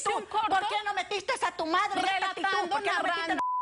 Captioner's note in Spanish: Bip